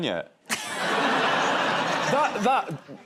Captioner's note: laughter